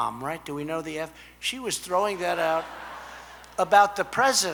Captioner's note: laughter